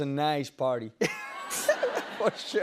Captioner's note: laughter